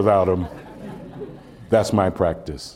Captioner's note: laughter